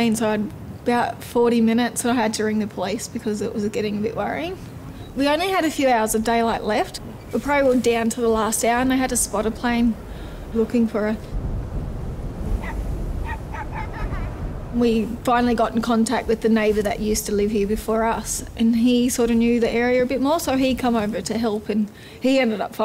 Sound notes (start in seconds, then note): 11.1 child Giggles; 12.5 dog Barks